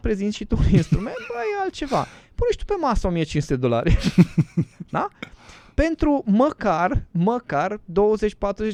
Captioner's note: laughter